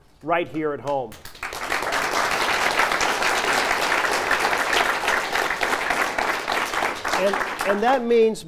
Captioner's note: applause